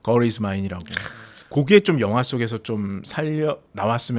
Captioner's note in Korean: 콧방귀